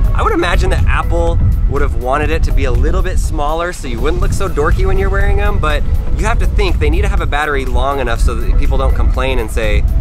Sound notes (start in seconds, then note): none